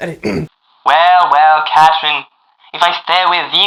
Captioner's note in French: accent transatlantique